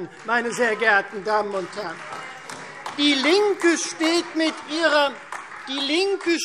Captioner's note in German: Beifall